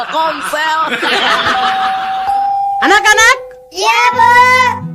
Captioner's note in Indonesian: tertawa